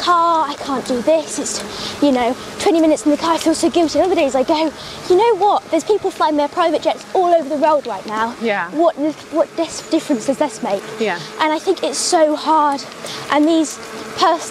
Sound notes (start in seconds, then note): none